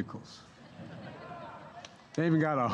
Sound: laughter

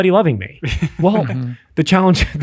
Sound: laughs

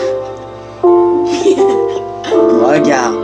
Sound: laughs

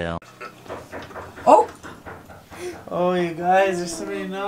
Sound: knocking

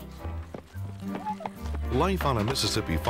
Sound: rapid footfall

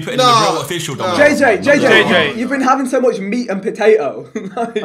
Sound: all laughing

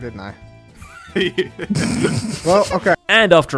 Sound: laugh

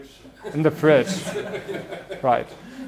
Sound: laughing

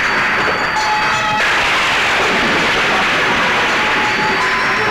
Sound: thunder crashing

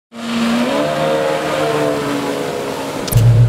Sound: jet ski engine

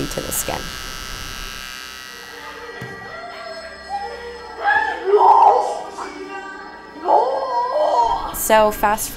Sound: aggravated mumbling sounds

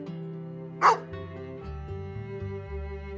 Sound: bark

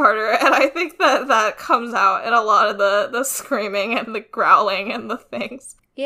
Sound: laughs; laughs

